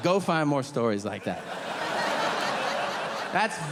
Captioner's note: audience laughing